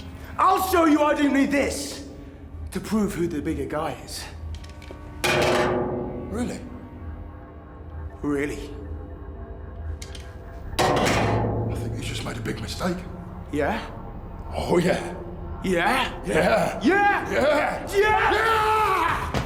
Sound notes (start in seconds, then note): 5.1 clanks; 10.6 clanks